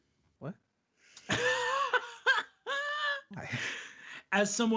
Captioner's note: laughing